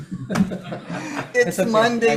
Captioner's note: group laughs